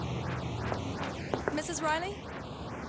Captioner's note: knocking